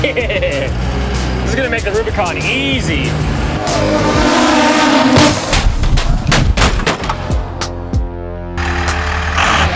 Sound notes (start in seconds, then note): 4.5 drone buzzes; 7.2 upbeat music; 8.6 engine roaring